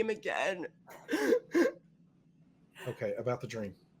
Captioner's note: crying